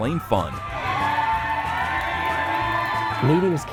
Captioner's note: people cheering